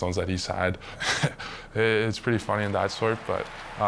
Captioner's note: chuckles